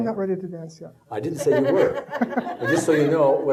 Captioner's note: audience laughing